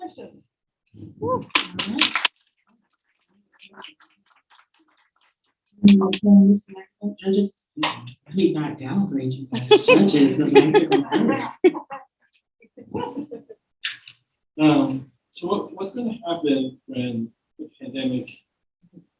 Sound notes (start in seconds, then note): 1.5 audience applauding; 9.5 all laughing